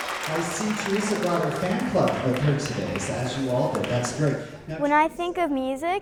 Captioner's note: applause